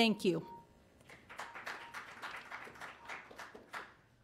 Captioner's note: applause